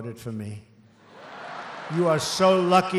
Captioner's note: laughter